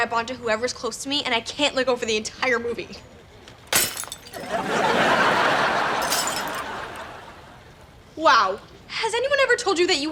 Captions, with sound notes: whoever's close to me and I can't let go for the entire movie. (glass shatters) (laughs) Wow. Has anyone ever told you that you have